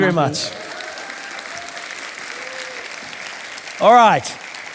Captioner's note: audience applauding